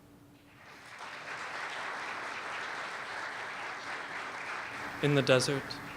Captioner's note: applause